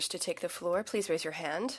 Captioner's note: speaking French